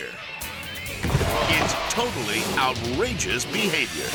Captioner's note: body thudding